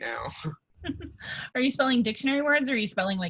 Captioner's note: laughs